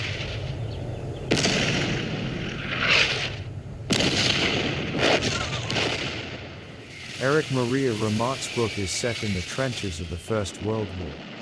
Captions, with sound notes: [explosion booming] Erich Maria Remarque's book is set in the trenches of the First World War.